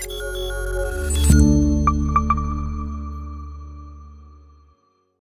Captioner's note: graphics beeping; graphics chiming